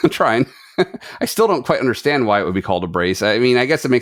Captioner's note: laughs